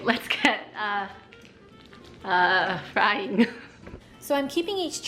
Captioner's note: chuckles